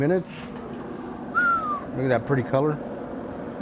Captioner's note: whistles